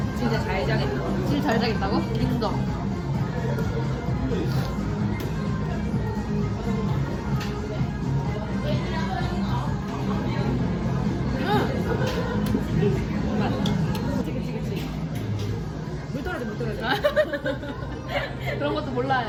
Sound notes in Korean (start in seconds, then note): 4.3 훌쩍